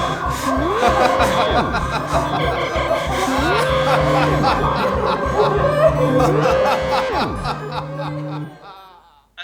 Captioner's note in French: Vibreur